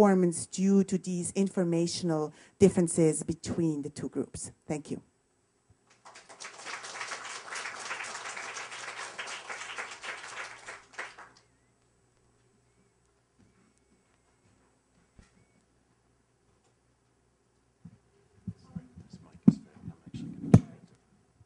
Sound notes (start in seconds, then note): 5.9 applause